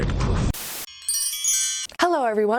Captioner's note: chimes